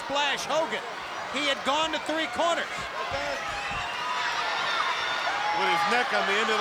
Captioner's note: crowd cheering